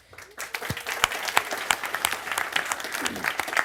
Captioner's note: crowd applauds